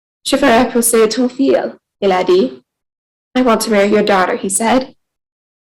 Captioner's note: speaking in French